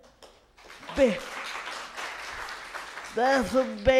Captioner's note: applause